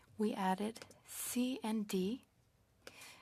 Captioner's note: speaking French